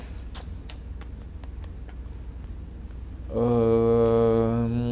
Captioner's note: clicking tongue